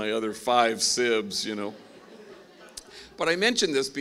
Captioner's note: laughing